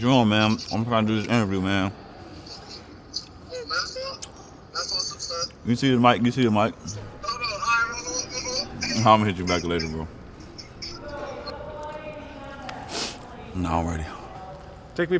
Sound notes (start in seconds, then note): 3.4 man talking on phone